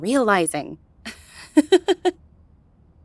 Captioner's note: chuckle